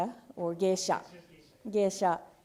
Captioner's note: speaking japanese